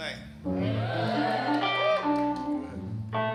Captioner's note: audience cheering and applauding